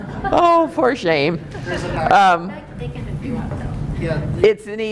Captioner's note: laughing